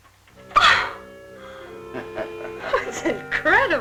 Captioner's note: laughing